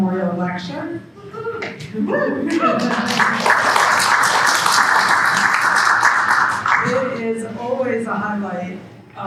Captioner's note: applause